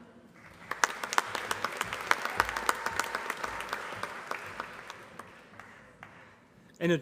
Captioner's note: applause